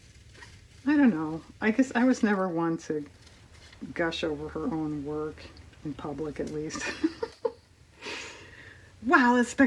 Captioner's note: laughs